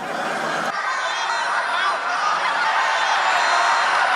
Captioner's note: laughing